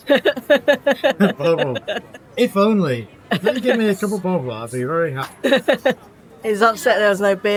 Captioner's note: laughs